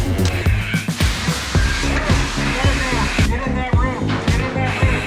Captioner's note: water splashing